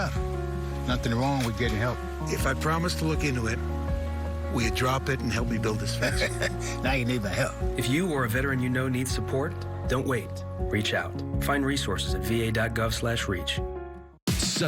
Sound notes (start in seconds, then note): 5.9 chuckles